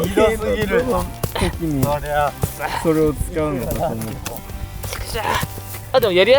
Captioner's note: laughs